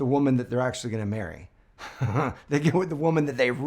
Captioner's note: chuckles